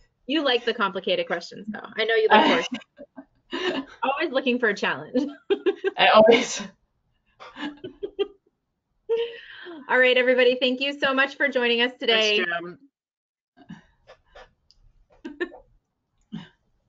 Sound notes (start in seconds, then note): 2.3 laughs; 5.9 chuckling